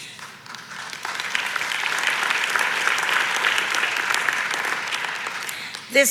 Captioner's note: audience applauds